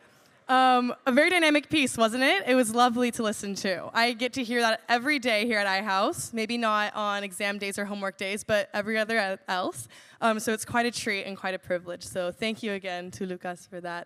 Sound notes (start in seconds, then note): none